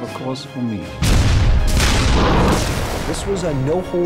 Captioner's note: explosions booming; artillery booming